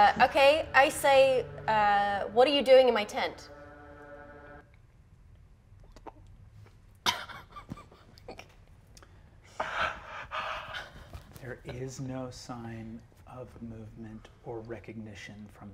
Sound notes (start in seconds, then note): 7.1 laughs anxiously; 9.4 pants nervously